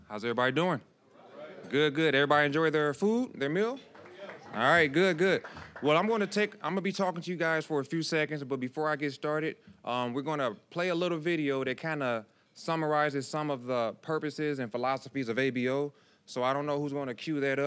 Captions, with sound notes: >> How's everybody doing? >> (audience responding). >> Good, good. Every enjoy their food, their meal? >> Yes! (scattered applause) >> All right, good, good. Well, I'm gonna be talking to you guys for a few seconds, but before I get started, we're gonna play a little video that kind of summarizes some of the purposes and philosophies of ABO. So, I don't know who's gonna cue that up,